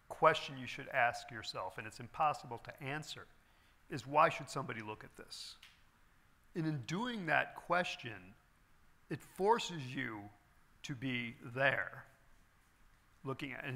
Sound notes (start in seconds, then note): none